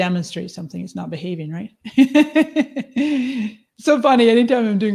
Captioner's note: laughs